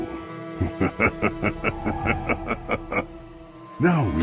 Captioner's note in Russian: смех